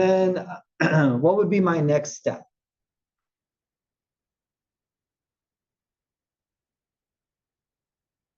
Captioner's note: cough